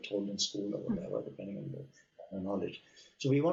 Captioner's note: audio cutting out